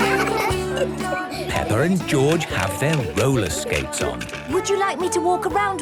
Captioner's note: laughter; giggling